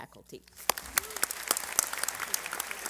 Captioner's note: applause